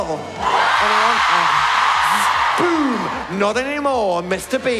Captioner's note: large cheer